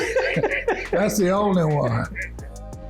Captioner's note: laughing